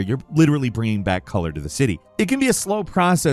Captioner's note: none